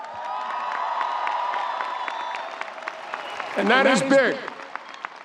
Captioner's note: audience cheers